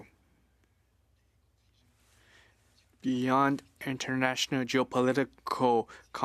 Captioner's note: speaking French